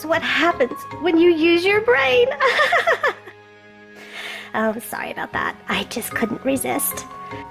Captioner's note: laughing